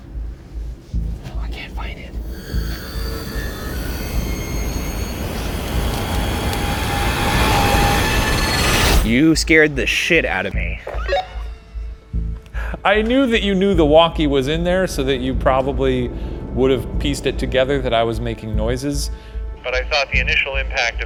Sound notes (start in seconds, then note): 2.1 intense foreboding music; 10.6 laughs